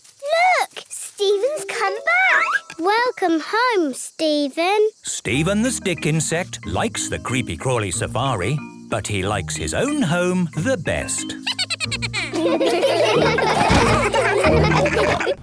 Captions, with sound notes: - Look! Steven's come back! - Welcome home, Steven! - Steven the stick insect likes the Creepy Crawly Safari. But he likes his own home the best! (Steven giggles.) (all laughing)